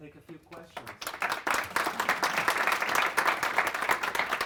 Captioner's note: audience applauding